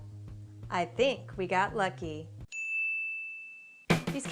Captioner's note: ding